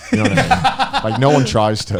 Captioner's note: laughing